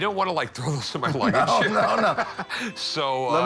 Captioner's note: laughs